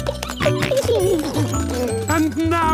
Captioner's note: giggling, snorting